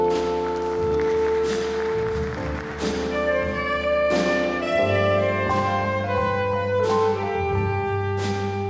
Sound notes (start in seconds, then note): 0.0 scattered applause; 4.0 mellow funky music